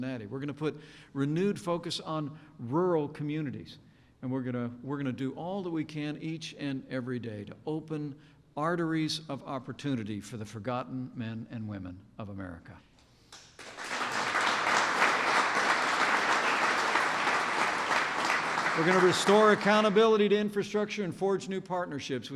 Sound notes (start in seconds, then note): 13.3 applause